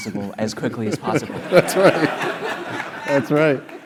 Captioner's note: laugh